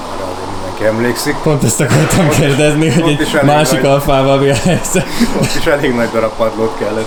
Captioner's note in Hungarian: nevetés